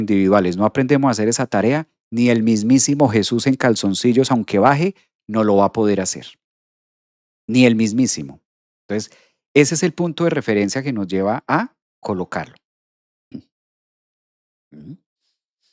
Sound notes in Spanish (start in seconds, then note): 13.3 carraspeo